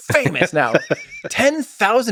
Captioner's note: Lex laughs